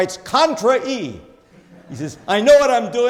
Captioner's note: audience laughs